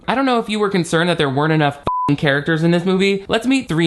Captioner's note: beep